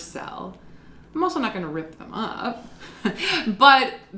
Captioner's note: chuckles